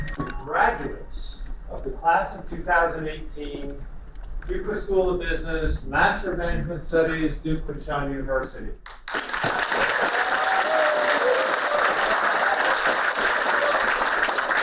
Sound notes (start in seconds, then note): 8.8 applauding